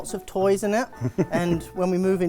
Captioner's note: laughing